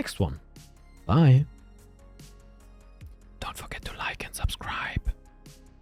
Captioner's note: whisper